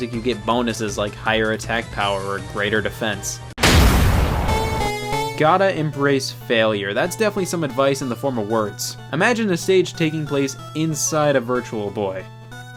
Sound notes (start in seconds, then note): 3.6 object smashes; 4.2 mysterious music